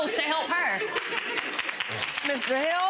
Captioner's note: audience clapping